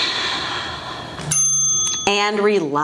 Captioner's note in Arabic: زفير